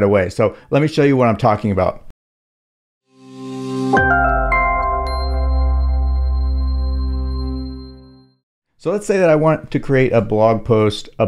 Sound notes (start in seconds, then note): 3.2 logo chiming